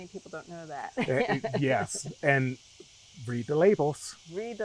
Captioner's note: laughing